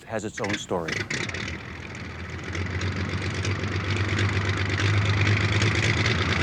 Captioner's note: airplane engines revving